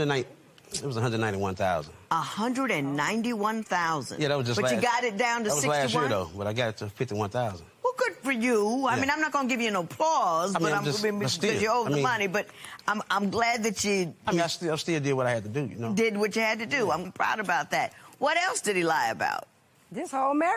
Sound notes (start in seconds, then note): none